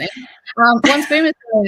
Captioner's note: chuckles